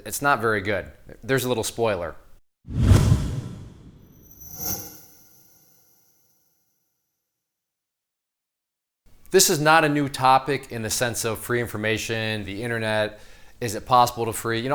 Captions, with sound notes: It's not very good. There's a little spoiler. (whoosh) This is not a new topic in the sense of free information, the internet, is it possible to free,